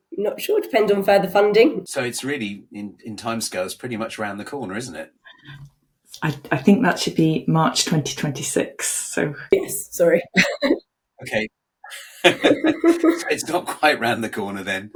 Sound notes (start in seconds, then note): 11.9 everyone laughing